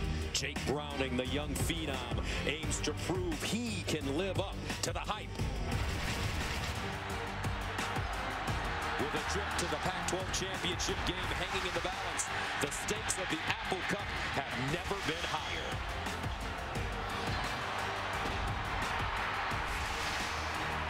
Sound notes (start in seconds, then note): 15.9 applause